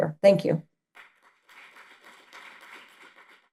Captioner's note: audience claps